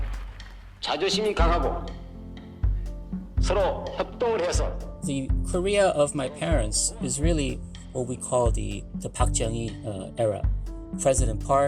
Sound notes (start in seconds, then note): 2.4 soundbite of archived recording; 4.8 speaking Korean